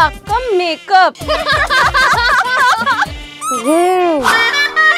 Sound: laughing

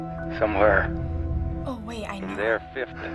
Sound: staticky voice

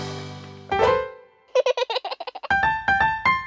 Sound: piano roll; baby giggles

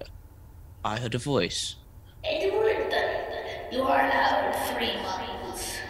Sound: eerie echo

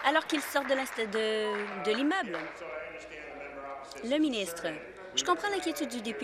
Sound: applause

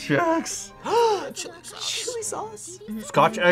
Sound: gasps

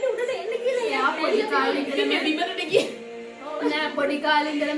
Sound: “laughing”

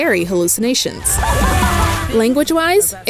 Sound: Velma screams

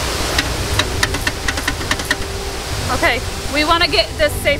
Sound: rattling sound

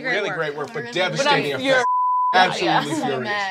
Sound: beep

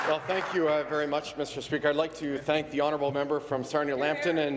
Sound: applause

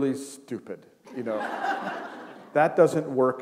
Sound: laughter

